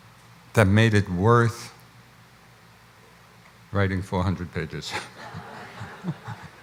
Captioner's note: laughs